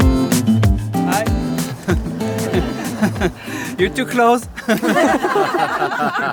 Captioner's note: everyone laughs